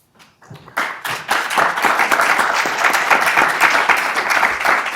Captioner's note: attendees applauding